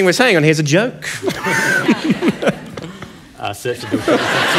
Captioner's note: laughter